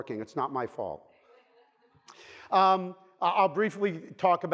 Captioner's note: audience laughing